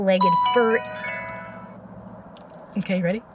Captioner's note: phone rings